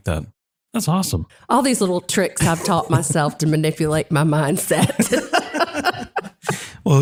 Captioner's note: laugh